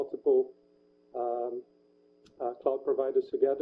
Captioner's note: pause